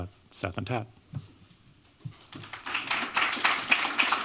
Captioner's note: applause